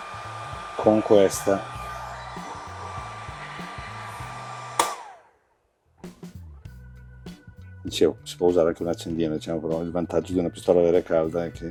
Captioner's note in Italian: Applauso